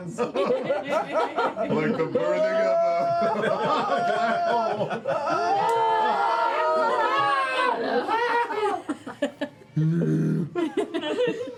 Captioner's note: laughter and pained yelling